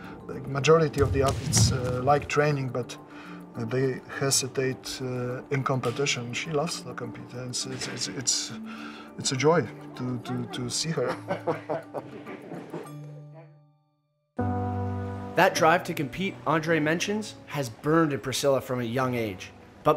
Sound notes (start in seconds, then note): 11.5 chuckles